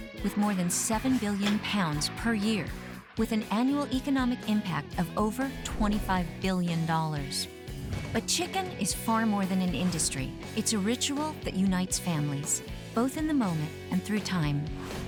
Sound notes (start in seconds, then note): none